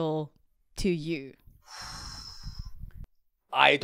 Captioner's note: exhales